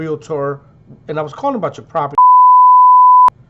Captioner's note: beep